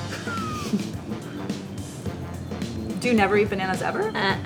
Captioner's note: laughs